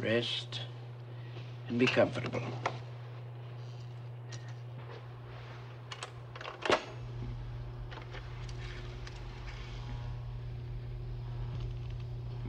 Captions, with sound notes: Just rest and be comfortable. (tape recorder clicks)